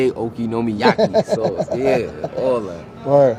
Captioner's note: laughs